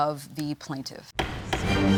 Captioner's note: bangs gavel